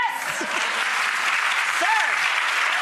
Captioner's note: applause